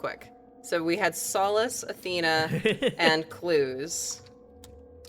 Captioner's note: laughs